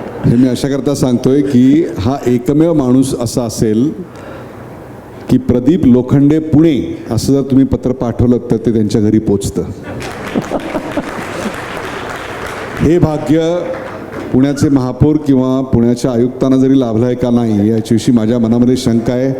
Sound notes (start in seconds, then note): 9.8 crowd applauding